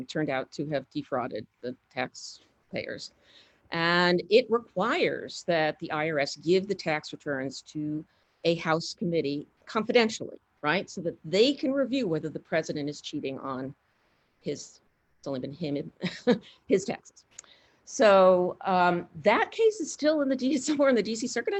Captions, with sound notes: turned out to have defrauded the tax payers, and it requires that the IRS give the tax returns to a House committee confidentially, right? So that they can review whether the president is cheating on his, it's only been him, (chuckles) his taxes. So, that piece is still somewhere